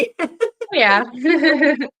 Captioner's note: laughs